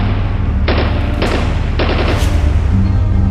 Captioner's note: gunshots